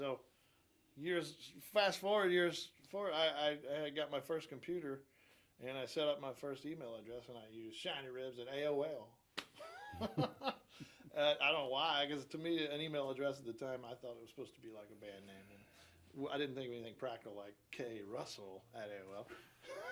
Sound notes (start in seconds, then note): 9.6 chuckles; 19.6 laughs loudly